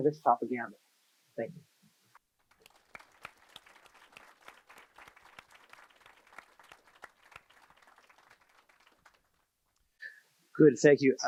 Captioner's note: applause